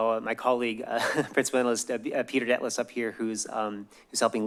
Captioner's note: laugh